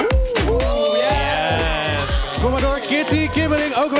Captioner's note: gays scream at a reveal